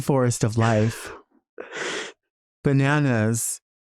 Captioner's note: Nymphia laughing